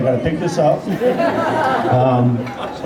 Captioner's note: laughter